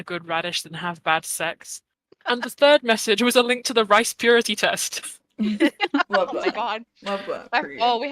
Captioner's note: group laughter